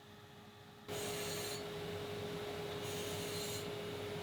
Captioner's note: machine whirring